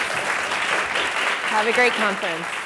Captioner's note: audience applauds